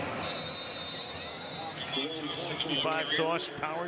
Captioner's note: whistle